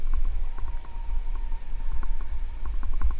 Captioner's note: wolf howls